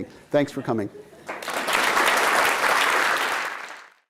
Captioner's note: applause